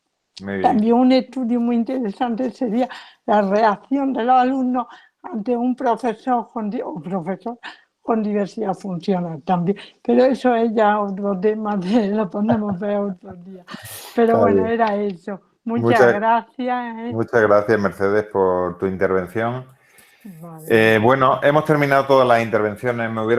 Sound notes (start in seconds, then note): 15.1 risas